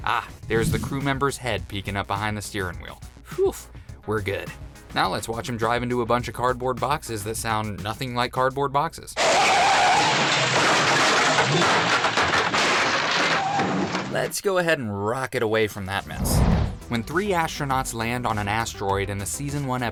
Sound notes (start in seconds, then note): 9.2 screeching car tires; 10.7 heavy crashing